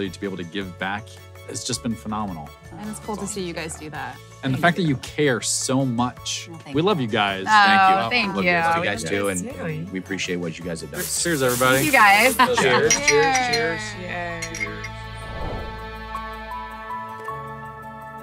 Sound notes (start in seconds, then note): 12.3 laughing; 14.3 clinking mugs; 14.9 relaxing piano music